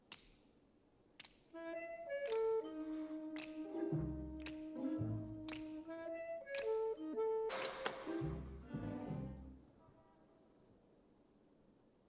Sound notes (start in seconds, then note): 1.5 snapping fingers; 8.6 light music continues